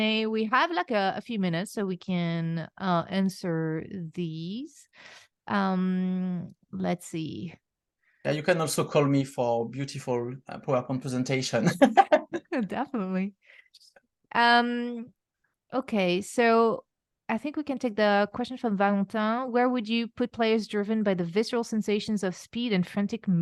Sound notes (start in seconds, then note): 11.6 laughs